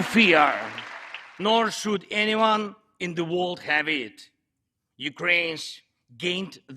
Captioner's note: applause